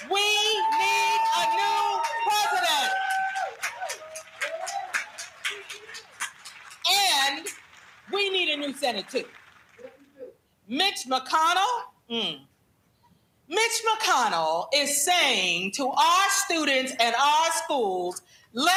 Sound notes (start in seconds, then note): 2.8 clapping